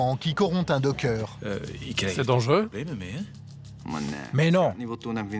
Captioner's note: Dutch spoken audio